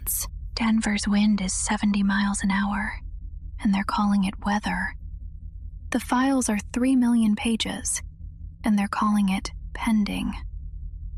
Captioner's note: whispers